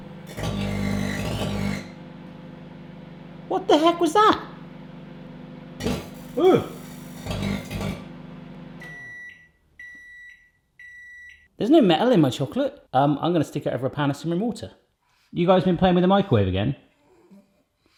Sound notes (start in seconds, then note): 0.3 microwave buzzes and pops; 5.6 microwave buzzes and pops; 6.4 yelps; 8.9 microwave beeps